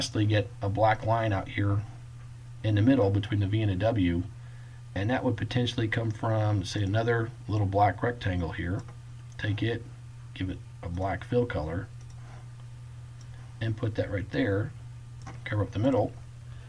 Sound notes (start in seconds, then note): 12.0 click